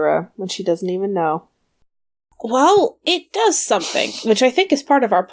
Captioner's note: laughs